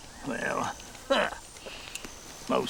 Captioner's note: scoffs